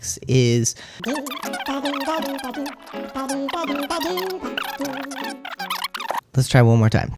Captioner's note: sped-up voice, silly music